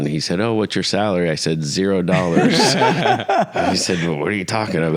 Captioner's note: everyone laughs